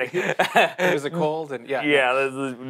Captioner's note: laughs